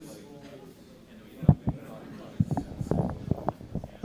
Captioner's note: chatter